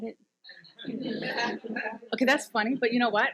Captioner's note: audience chuckles